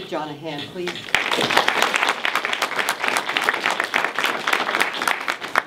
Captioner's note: everyone applauds